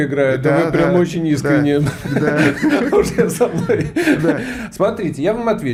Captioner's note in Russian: смех